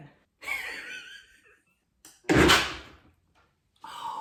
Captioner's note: woman laughing